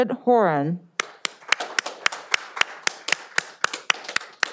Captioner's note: all applauding